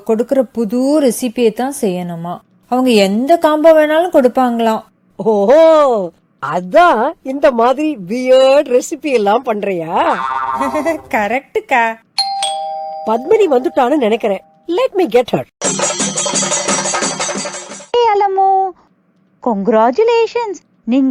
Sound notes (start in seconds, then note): 12.2 door bell sound